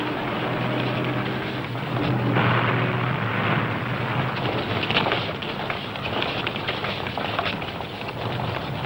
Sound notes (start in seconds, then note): 4.6 boots stomping